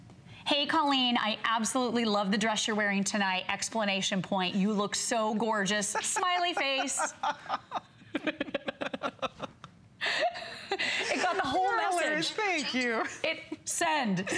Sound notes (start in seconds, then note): 9.9 laughter